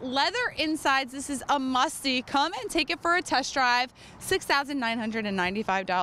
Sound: none

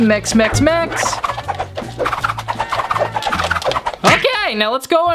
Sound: whirring

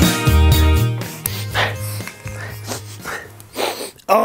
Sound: freda sniffs

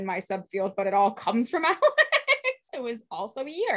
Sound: laughs

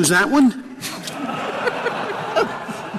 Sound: laughter

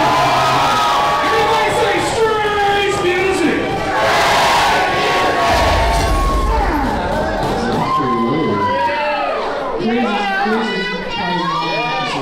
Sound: crowd Noise

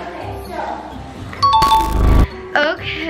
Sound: bell rings

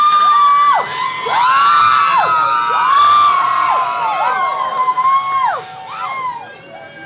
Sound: screaming intensifies

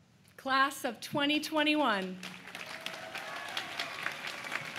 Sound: applause

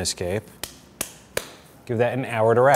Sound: slapping

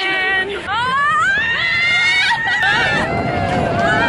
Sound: yelling

